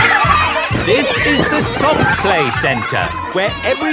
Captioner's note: loudly over shouting